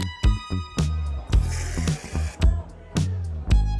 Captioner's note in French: brouhaha de voix du café